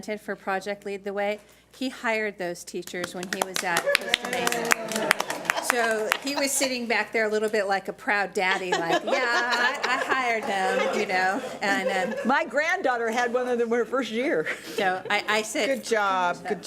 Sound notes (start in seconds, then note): 4.8 everyone applauds and cheers; 10.5 everybody laughs